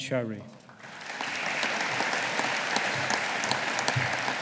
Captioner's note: audience applauding